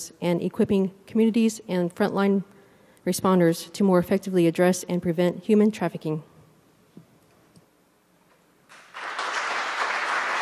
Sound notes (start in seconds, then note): 8.7 applause